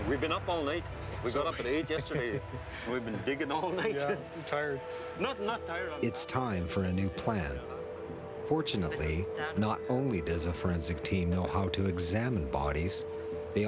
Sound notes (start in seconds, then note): 6.2 voiceover